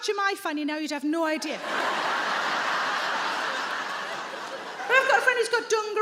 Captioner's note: audience laughing